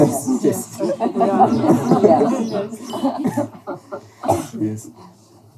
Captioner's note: laughter